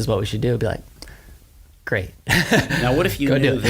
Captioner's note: laughs